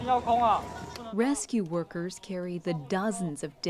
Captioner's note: speaking Foreign Language